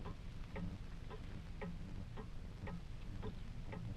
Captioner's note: clock ticking